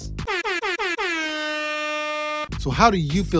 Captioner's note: horns